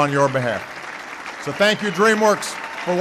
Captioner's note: applause